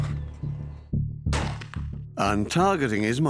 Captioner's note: gunshot